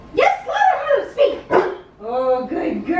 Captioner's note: Harlow barks